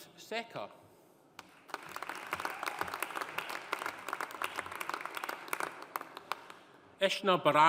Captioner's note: audience applauding; audience cheering